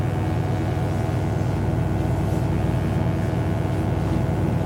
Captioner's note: electric buzzing